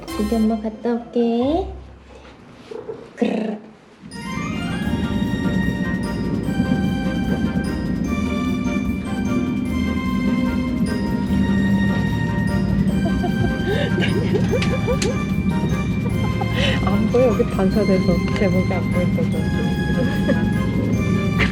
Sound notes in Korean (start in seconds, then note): 4.5 달리는 기차 소리; 12.9 웃음; 19.9 웃음; 21.3 민망한 웃음